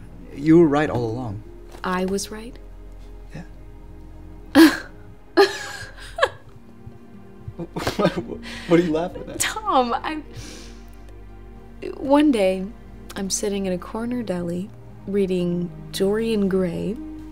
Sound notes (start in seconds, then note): 5.4 scoffs and laughs; 7.4 stammering